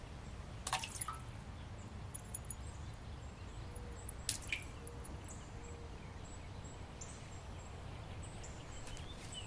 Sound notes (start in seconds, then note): 0.6 splash; 4.3 splash